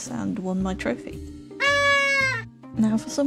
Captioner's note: obnoxious party horn